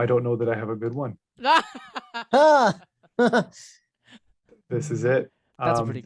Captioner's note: laughter